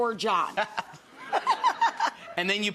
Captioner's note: audience laughs; laughs